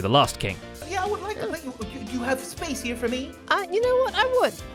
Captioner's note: stammers